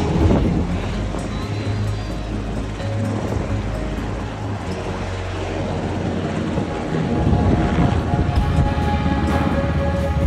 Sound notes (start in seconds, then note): 1.7 wind in mic roaring; 4.0 aircraft engine in background droning; 7.7 sentimental music continues